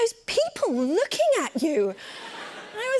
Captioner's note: laughter